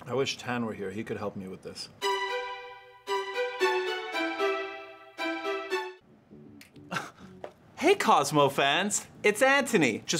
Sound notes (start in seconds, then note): 2.0 orchestral music; 6.8 laughing